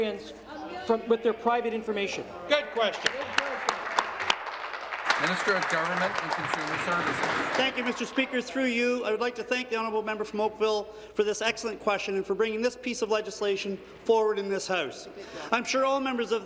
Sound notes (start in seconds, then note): 6.9 applause